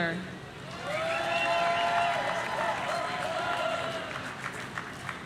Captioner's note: audience cheering